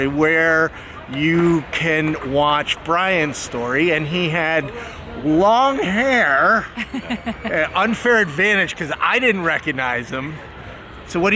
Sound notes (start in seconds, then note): 6.7 laughing